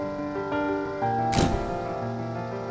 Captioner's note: light piano music; camera shutter clicking; light piano music